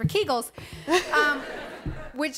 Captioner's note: laughter